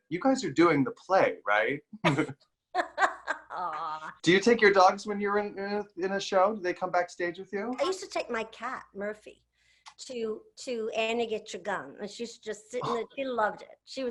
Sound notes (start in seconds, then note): 2.7 laughs